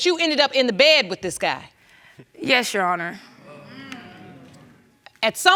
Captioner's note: audience murmuring disapproval